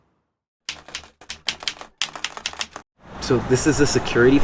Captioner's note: keyboard keys clicking